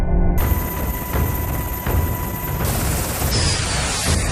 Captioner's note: jets blasting